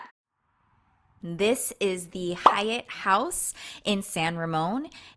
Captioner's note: bubble popping